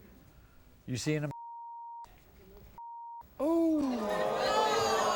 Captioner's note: beep; audience groans